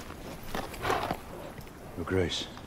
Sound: neighs

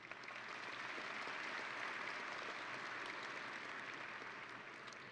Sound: audience and graduates applauding

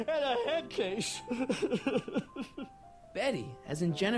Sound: crying

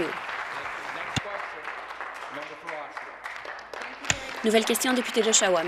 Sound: applause

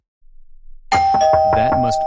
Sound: doorbell and door knocking

